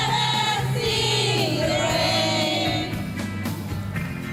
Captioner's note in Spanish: none